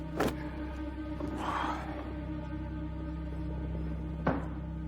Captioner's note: Don sighs heavily